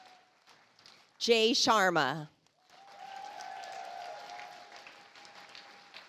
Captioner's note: audience applauds